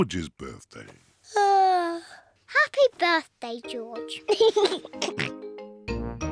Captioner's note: yawns; laughs and oinks